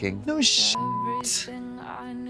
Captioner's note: beep